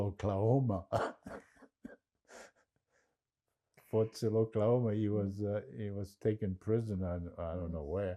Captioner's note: laughing